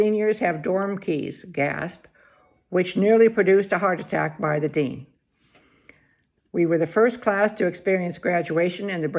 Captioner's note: gasp